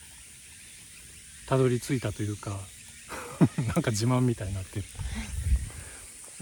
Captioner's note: laughs